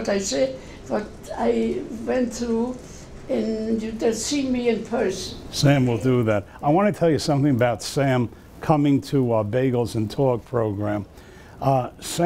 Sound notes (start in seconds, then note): none